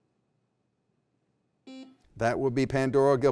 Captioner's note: beep